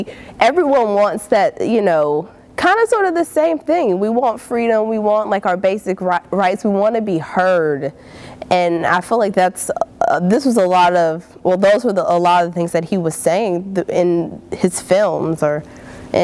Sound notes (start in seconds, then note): none